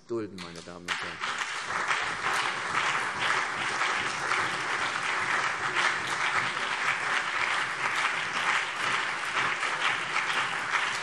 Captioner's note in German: Beifall CDU, BÜNDNIS 90/DIE GRÜNEN, Freie Demokraten und vereinzelt SPD